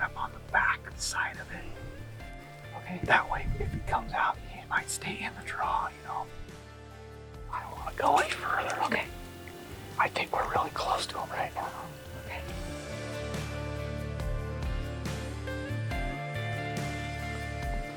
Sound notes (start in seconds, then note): 2.9 whispering; 7.6 whispering; 14.1 soft rock music continues